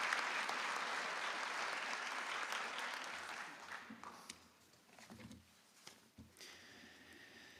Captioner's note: applause